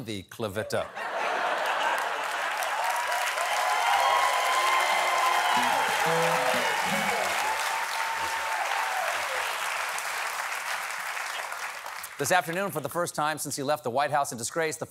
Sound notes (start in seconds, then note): 0.8 laughter; 1.6 applause; 5.5 cheering